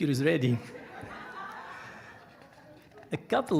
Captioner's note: audience laughing